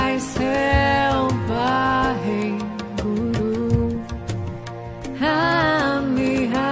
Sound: chanting in foreign language

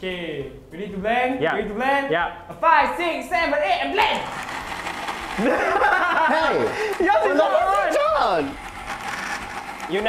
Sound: laughs

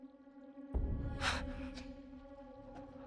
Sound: gasp

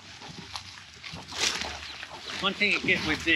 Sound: goats chewing

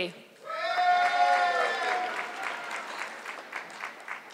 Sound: audience clapping

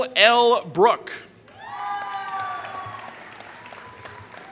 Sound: applause

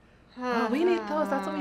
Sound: groans

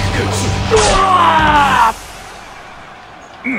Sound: KO Scream

